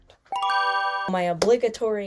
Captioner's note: bell rings